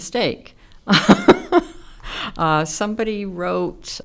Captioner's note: chuckles